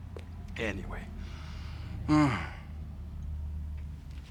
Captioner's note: sighing